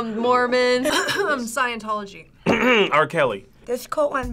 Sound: coughs

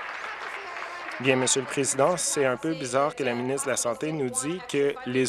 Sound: applause

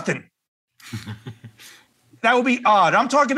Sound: laugh

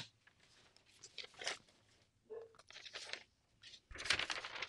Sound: paper rustling

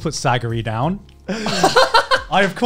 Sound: laughs

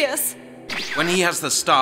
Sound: woosh

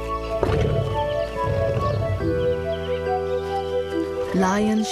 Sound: lioness roaring

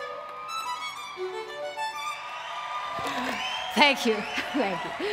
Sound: rapturous applause

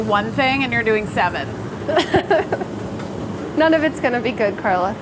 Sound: laughing

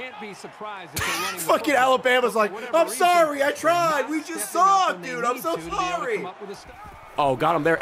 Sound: laughs

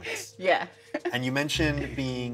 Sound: chuckles

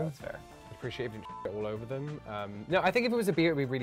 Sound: beep

